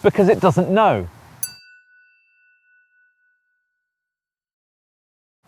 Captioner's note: chiming tone